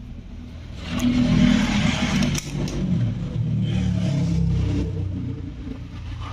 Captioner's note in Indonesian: Suara Mobil